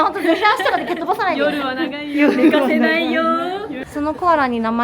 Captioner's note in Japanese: 笑い